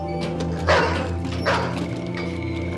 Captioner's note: dog continues barking